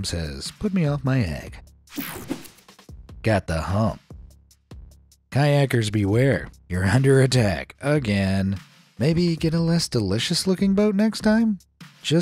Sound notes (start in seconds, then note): 1.9 screen wipe whooshes